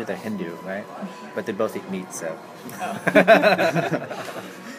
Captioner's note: laughs